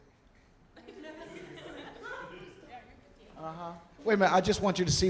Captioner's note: audience laughing